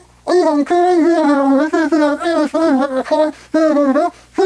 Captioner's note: mumbling furiously